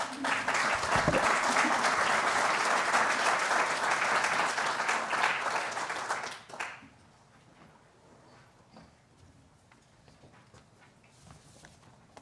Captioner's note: applause